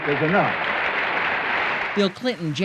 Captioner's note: applause